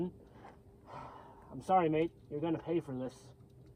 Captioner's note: sigh